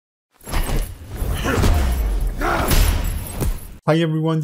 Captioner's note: animator grunting